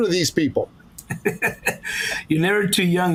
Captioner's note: laughs